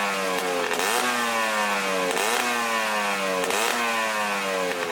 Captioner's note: motor running